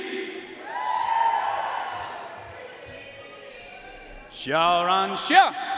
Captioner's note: audience cheering and applauding